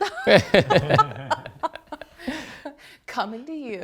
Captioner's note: laughter